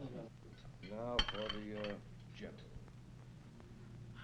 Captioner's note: plate clinking